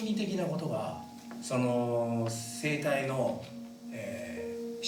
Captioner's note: speaking in foreign language